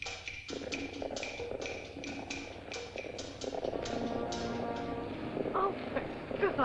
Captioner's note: tense music; hooves echo; tense music